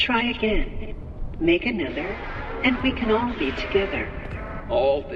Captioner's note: M1, using Fiona's voice